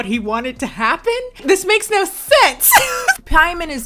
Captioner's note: laughing